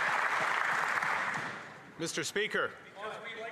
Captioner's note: applause